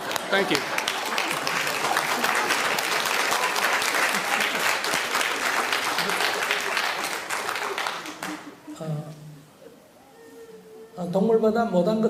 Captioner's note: audience Laughter and Applause